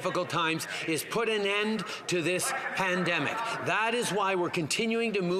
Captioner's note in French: voix de l'interprète